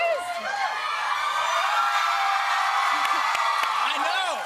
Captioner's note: cheers and applause